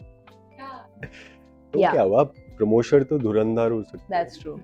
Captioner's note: laughs